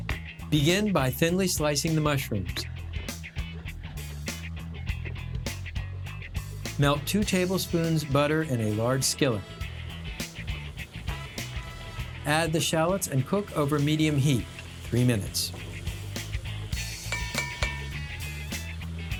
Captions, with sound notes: BEGIN BY THINLY SLICING THE MUSHROOMS. MELT TWO TABLESPOONS BUTTER IN A LARGE SKILLET. ADD THE SHALLOTS AND COOK OVER MEDIUM HEAT, 3 MINUTES. (SPOON RINGING)